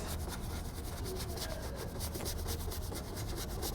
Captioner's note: brush scrapes